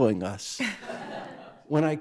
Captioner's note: crowd laughs